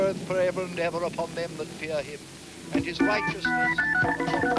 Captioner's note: minister's voice fades